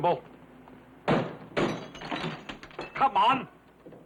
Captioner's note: glass shattering